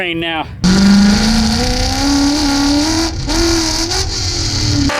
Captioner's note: engine roaring